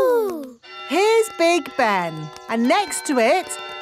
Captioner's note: clock chimes